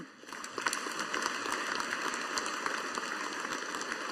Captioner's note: audience applauding